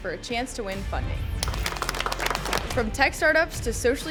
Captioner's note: panel applauding